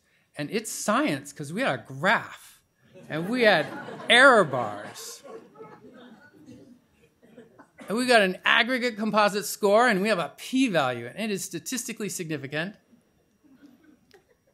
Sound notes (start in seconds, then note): 4.8 laughter